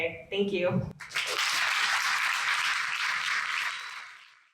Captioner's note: audience applauds